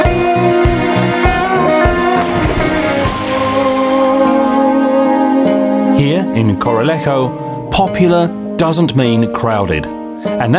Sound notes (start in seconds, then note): 2.1 water splashing